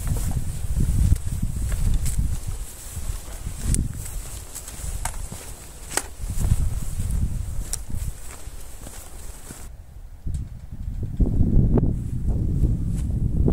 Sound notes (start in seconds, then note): 0.0 wind blowing